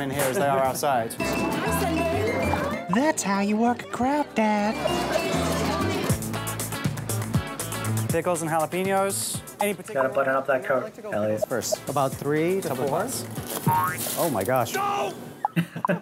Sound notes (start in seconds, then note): 1.6 upbeat music; 4.6 upbeat music; 12.6 boing